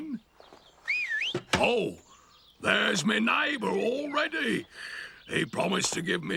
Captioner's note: whistle